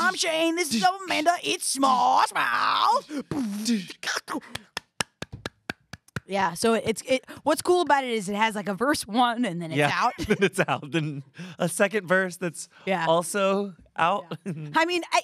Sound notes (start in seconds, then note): 4.6 applauds